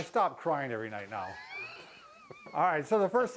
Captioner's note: laughs